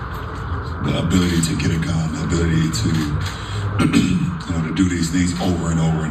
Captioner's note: cough